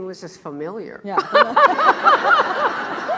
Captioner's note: laugh; laughs